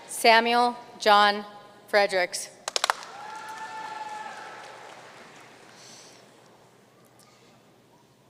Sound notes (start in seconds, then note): 2.7 audience cheering and applauding